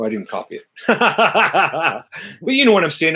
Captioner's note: chuckles